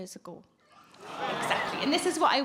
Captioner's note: audience gasp